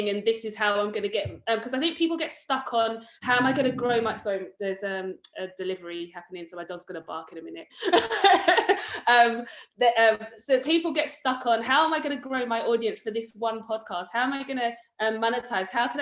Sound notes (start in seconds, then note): 8.0 laughs